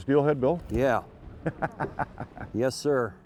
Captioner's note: laughing